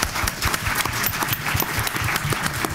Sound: applause

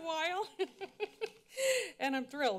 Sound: laughs

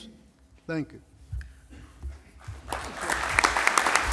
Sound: applause

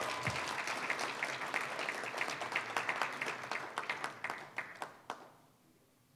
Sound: applause, cheering; applause

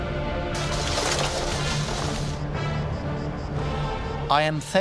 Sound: arms clattering

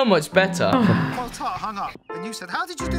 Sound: grandma sighs

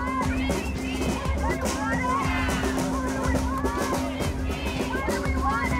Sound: crowds chanting

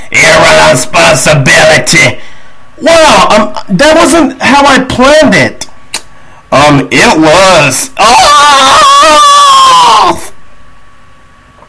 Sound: scream

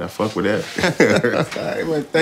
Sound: laughter

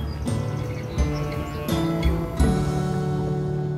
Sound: cows lowing

